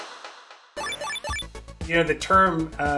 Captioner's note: machine bleeps